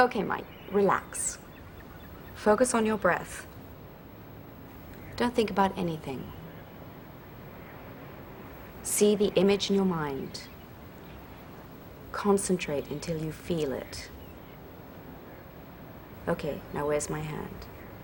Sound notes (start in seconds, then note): none